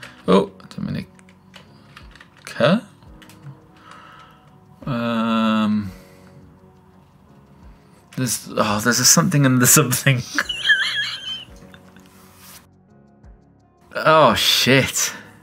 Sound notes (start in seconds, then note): 0.0 keyboard clacks; 10.3 laughs